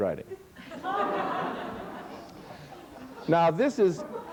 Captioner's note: laughter